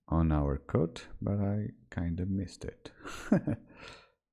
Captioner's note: laughs